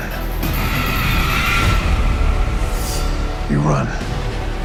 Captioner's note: creature screeches